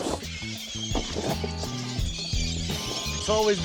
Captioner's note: birds screeching, feeding